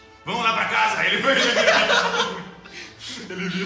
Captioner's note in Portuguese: Risadas